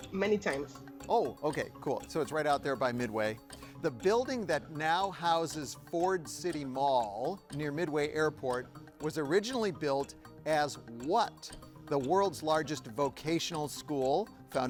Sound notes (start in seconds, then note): none